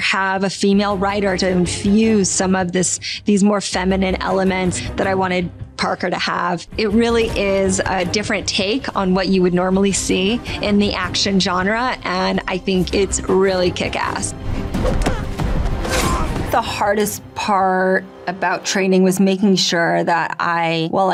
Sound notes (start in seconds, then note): 14.5 intense music; 15.8 man and woman grunting